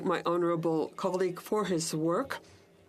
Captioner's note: speaking French